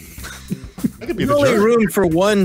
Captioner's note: laughs